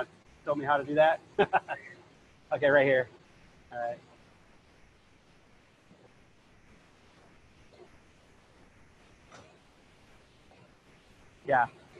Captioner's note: laughter